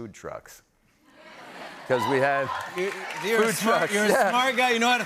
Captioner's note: laughter